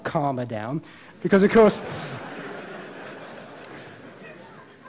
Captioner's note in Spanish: Risas